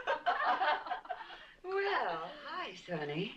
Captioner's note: all laughing